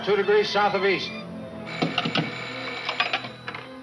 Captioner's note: phone ringing